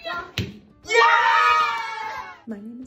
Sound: cheering

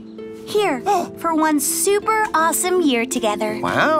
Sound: laughs; gasps

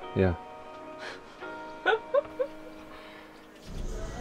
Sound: laughs

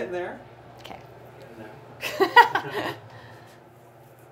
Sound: laughs

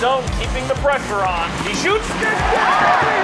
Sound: crowd cheering

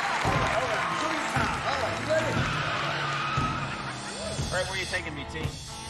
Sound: car tires screeching

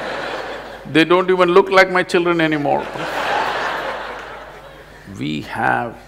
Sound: laughter

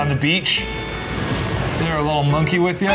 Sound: waves crash; monkey chirps

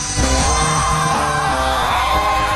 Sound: screaming

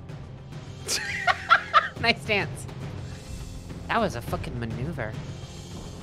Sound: laughing

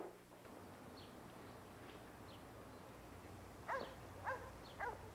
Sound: birds chirping; dog barking

